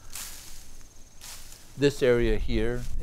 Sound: weeds swish

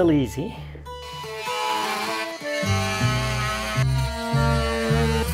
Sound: drilling sound

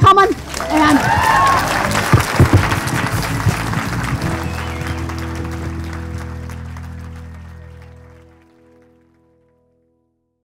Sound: applause - Music

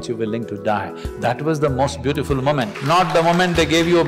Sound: applause

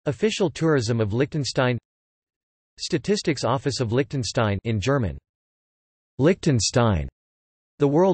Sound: in German

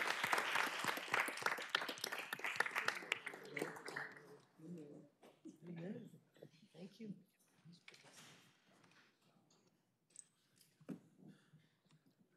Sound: applause

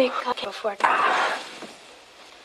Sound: Marty yelling

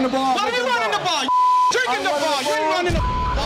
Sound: beep

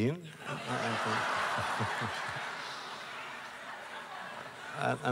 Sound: laughter

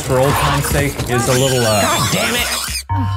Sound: Murder Monkey screeching

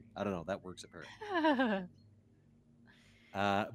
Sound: Bluejay laughs

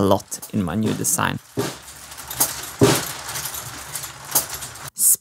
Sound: machine sounds; marbles rolling

